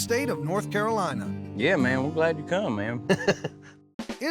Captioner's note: chuckles